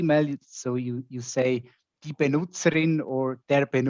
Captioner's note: speaking in foreign language